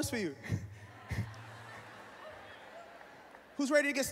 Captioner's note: laughing